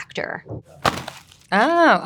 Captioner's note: packaging thudding